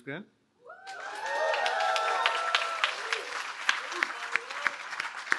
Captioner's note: cheering